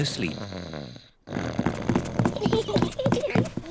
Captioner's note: snores; both giggle